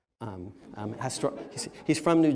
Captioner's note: laughter